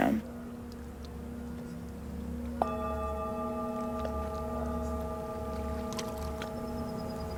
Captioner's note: singing bowl is struck again